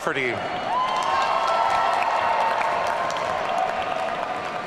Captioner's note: audience cheering